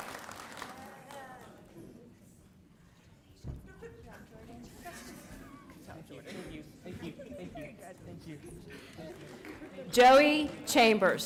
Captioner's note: applause